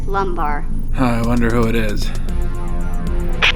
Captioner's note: sarcastic